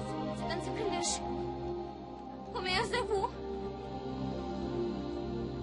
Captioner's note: speaking French